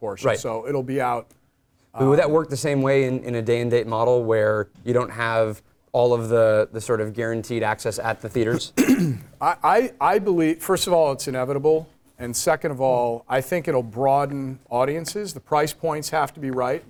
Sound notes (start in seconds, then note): 8.5 cough